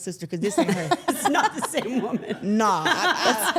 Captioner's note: everyone laughs